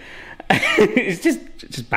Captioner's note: laughs